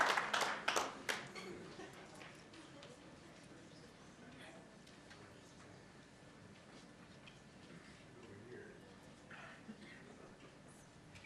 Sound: applause

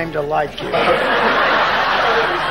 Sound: audience laughing

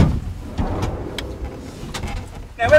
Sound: door slides open

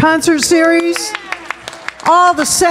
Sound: all clapping

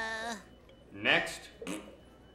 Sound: blowing raspberry

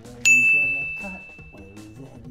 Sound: ding

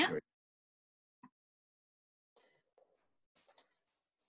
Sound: audio blurs

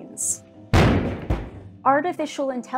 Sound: massive thud

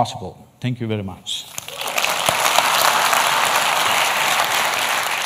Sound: applause

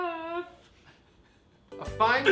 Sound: laughs

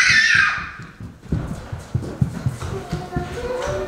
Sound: girls scream

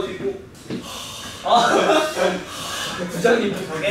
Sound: blowing

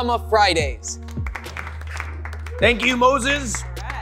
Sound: audience applauding

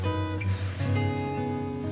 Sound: sniff

